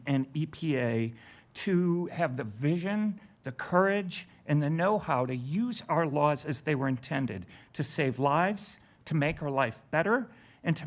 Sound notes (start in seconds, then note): none